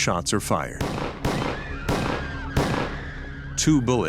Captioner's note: gunshots firing